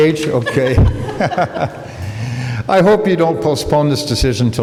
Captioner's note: laughter